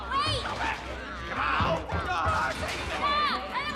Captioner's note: crying out